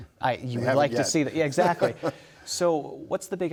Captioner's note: laughs